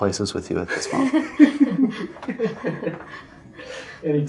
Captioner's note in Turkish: Kahkaha